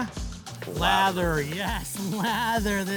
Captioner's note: comal sizzling; chuckling